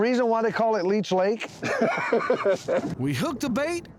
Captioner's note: laughing